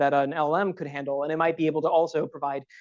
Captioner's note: none